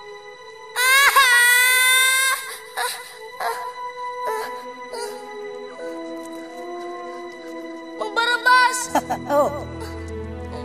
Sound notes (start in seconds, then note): 0.8 wails, whimpers; 9.2 Barabas chuckles